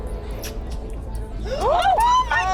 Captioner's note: mouse squeaking